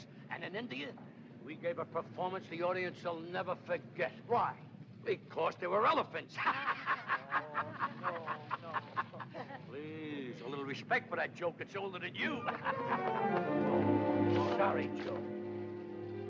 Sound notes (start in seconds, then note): 6.4 laughs; 12.2 laughing